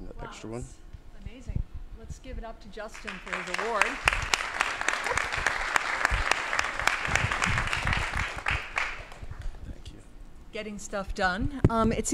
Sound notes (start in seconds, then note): 2.9 applause